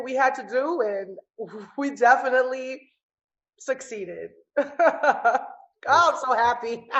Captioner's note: laughs